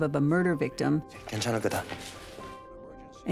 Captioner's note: speaking korean